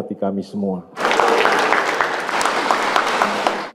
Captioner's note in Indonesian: tepuk tangan